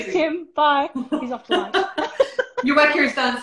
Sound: laughter

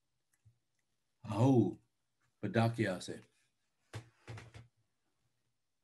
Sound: speaks in foreign language

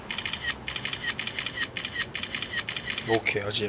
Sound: click click click click click

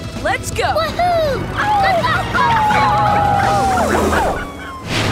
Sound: cheering, howling

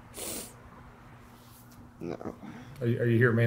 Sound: sniffling

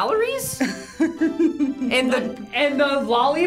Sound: laughs

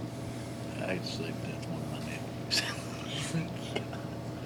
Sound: faintly speaking

